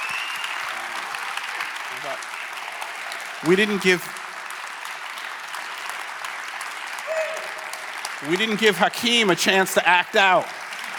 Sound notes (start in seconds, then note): 0.6 audience applauding